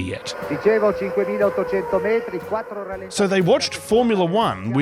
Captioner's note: italian commentary